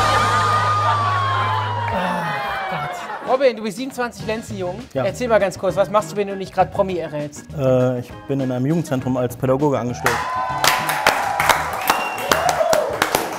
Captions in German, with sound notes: (Lachen) (Stöhnen) Ach Gott! Robin, du bist 27 Lenzen jung. Ja. - Was machst du, wenn du nicht grad Promi errätst? Ich bin in einem Jugendzentrum als Pädagoge angestellt. (Jubel)